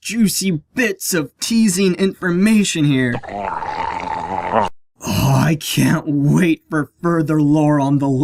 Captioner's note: SFX: Homer’s drool noise